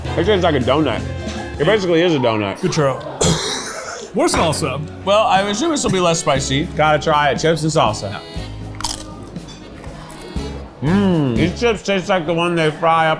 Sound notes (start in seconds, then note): 2.8 coughs; 8.7 crunches